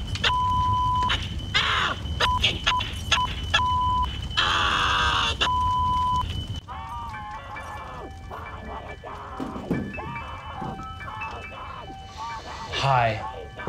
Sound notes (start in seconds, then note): 7.2 tender piano music; 9.3 distant screaming